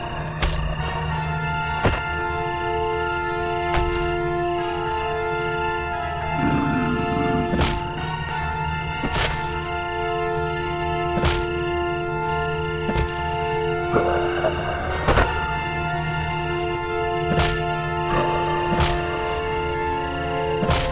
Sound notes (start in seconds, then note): 0.1 club thudding; 5.9 zombie growling; 8.6 blood squelching; 12.8 zombie growling; 17.5 club thudding; 20.6 intense music